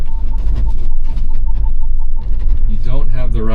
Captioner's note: truck beeping